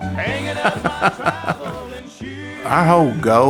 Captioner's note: laughs